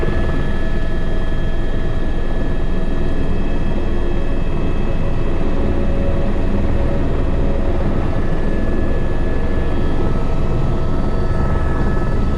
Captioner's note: helicopter lands